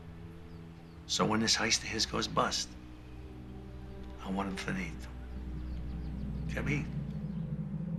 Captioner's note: Italian spoken audio